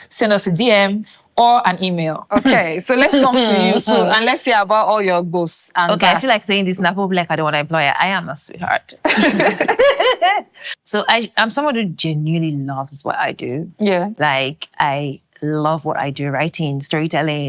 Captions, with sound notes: send us a DM or an email. Okay. So let's come to you, and let’s hear about all your experiences. Okay. I feel like saying this now, before people will be like I don’t want to employ her. I am a sweetheart. [laughing] So I'm someone who genuinely loves what I do. Yeah. Like, I love what I do, writing, storytelling,